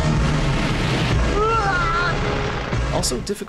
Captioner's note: screams